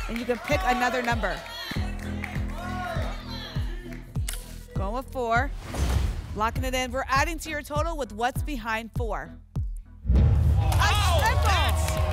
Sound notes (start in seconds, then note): 1.3 audience shouting numbers; 10.0 rumbling sounds